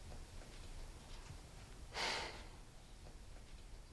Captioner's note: exhales sharply